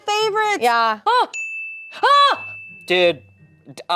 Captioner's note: yells